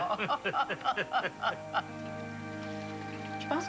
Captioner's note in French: Rires